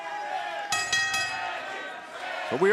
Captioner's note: bell